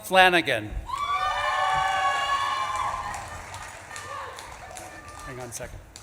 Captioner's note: audience claps and cheers